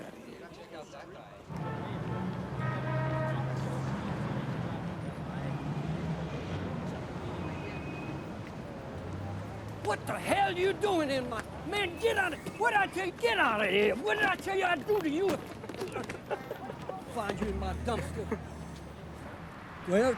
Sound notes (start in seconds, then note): 3.2 cars honking; 5.7 people chattering indistinctly; 17.6 Matt laughing